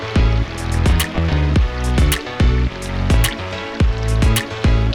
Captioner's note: running water sounds